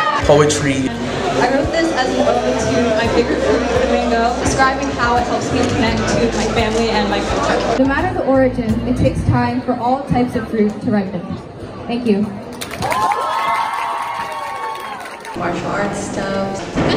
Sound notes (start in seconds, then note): 12.5 applause